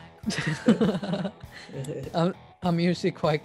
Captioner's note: both laugh